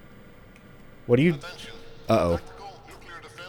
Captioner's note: pa system